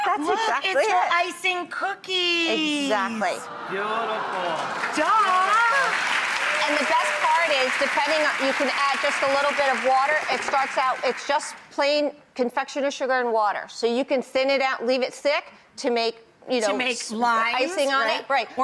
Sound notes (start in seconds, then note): 0.0 audience laughing; 5.8 audience clapping